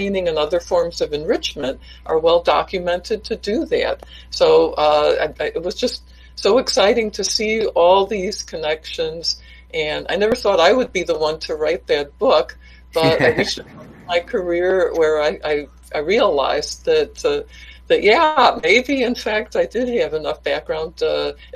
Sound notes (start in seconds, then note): 12.9 laughs